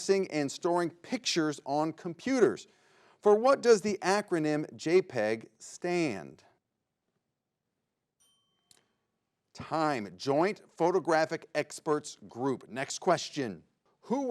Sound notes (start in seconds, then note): 8.1 bell rings